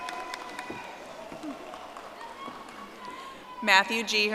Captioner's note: audience applauding